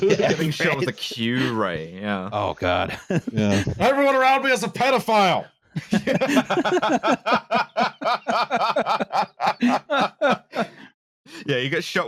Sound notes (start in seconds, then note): 4.6 shouts; 10.2 laughter